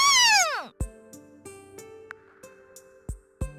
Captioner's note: silence